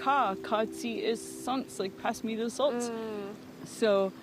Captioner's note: speaking in Nuu-chah-nulth